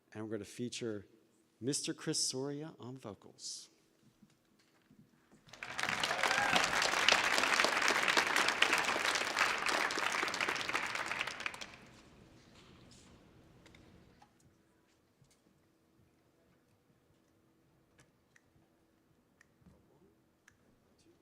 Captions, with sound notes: and we're gonna feature Mr. Chris Soria on vocals. (audience applauding)